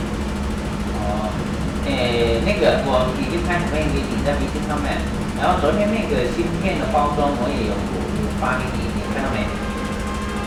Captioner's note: speaking in Mandarin